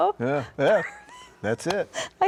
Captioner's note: wheezing